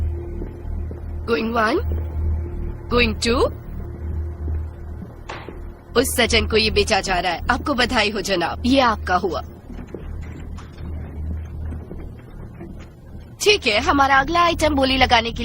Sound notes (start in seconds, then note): 5.2 gavel bang-s